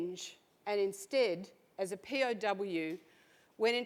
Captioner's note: none